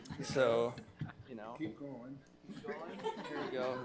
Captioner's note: people laughing